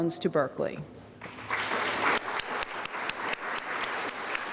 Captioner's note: applause